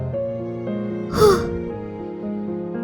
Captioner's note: exhale